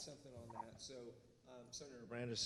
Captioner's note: murmurs